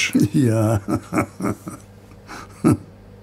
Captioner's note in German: lacht